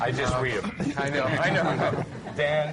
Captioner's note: laughter